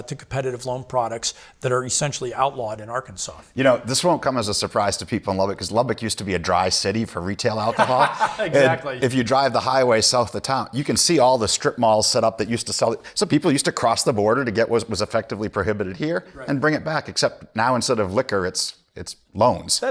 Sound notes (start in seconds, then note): 7.6 laughs